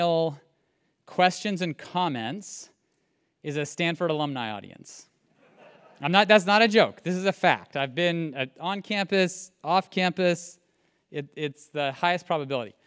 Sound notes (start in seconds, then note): 5.4 laugh